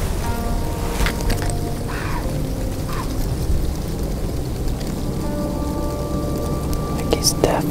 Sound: sound of deer blowing

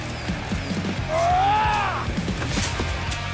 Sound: Leopold Roars

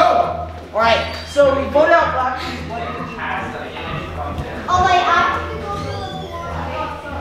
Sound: indistinguishable conversation as family exits

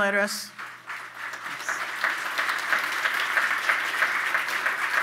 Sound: audience clapping

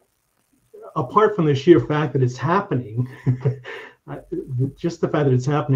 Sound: chuckling

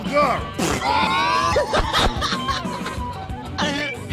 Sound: laughter

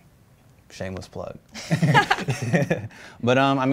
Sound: both laugh

